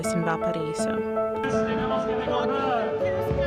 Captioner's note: street artist speaks in Spanish; touching music continues